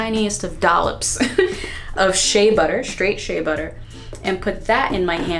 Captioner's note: laughing